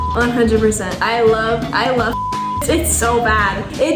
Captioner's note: beep; beep